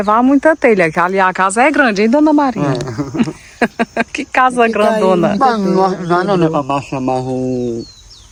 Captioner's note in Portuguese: risadas